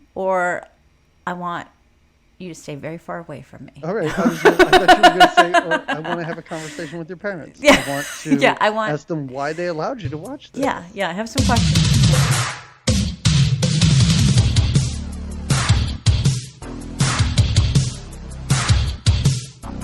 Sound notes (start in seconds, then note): 4.0 laughing; 11.4 upbeat techno music